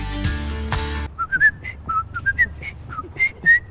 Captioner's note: whistling